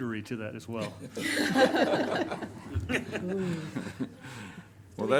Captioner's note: everyone laughs